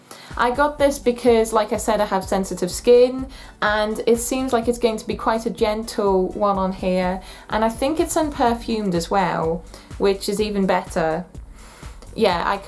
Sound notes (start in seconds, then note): 11.5 sniffs